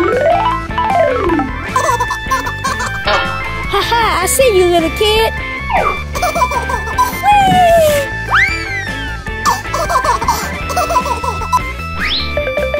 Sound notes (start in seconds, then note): 0.2 xylophone playing; 1.7 baby laughing; 6.0 baby laughing; 6.0 laughing; 9.4 baby laughing